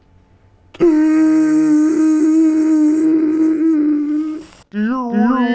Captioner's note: gasp